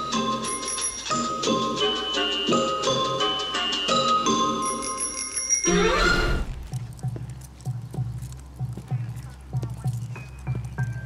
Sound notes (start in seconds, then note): 0.4 bell chiming; 1.7 mischievous music; 4.4 bell chiming repeatedly; 7.8 suspenseful music